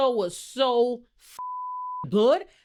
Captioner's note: beep